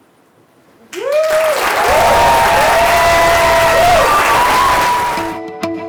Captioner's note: applause